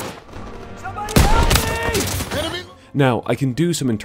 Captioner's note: american Accent